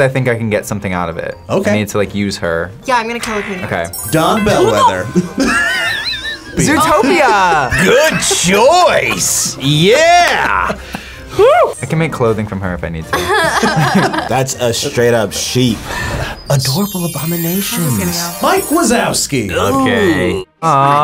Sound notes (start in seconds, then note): 4.4 React laughs; 13.1 both laugh